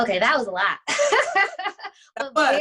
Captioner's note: laughs